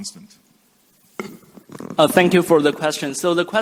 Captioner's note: microphone thump